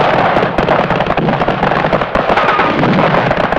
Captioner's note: missile blasting; explosion booming